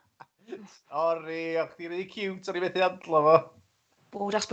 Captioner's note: he laughs